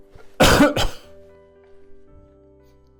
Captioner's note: coughing